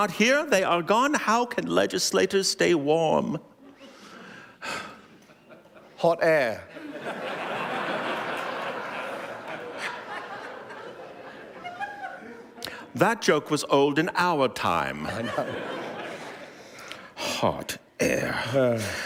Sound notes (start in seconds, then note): 6.7 laughter